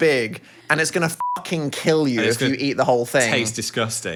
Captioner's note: beep